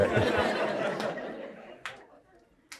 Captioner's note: crowd laughs